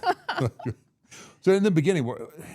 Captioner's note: all laughing